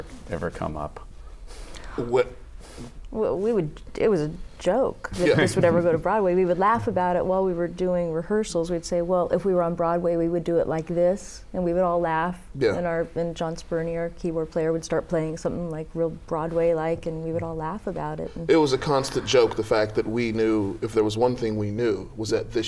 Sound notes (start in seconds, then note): 5.2 laughter